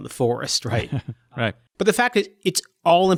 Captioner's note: laughs